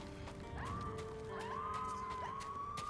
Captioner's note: screams